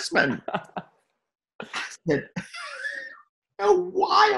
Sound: both laugh

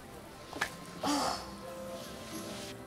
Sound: frustrated groan

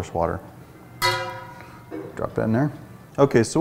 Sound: plunk

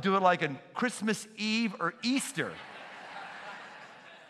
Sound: laughter

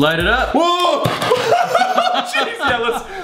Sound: laughter

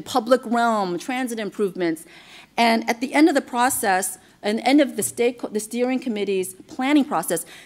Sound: none

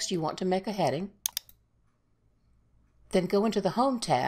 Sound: mouse clicks

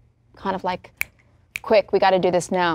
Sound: light clicking

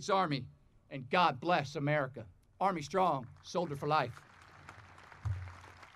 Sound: audience applauding

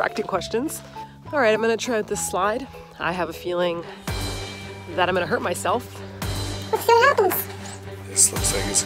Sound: in a chipmunk voice

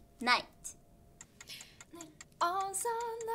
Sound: timer clicking

